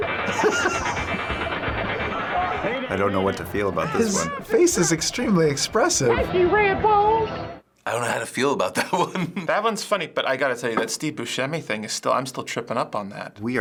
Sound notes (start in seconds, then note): 0.0 laughs; 8.7 chuckles